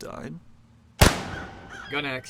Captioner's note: gunshot